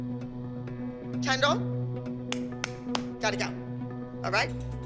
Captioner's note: claps